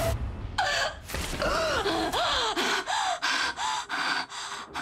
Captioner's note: gasps for air